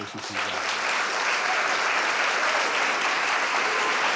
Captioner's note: audience applauds